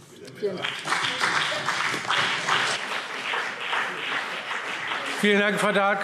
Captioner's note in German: Beifall BÜNDNIS 90/DIE GRÜNEN und CDU